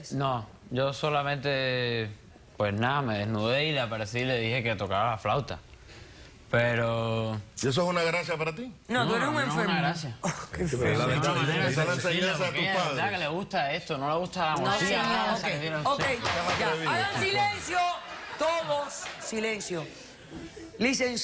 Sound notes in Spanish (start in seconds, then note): 18.1 risas